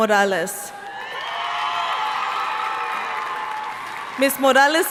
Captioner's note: audience cheering and applauding